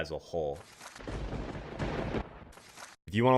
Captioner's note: thunder rumbling